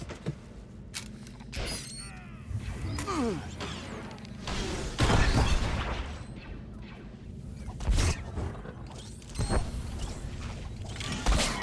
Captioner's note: gunshots